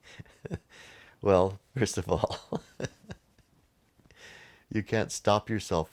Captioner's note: laughs